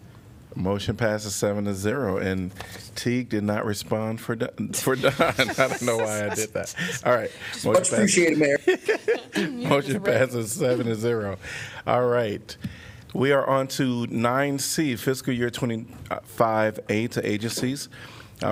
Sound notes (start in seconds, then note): 8.4 laughter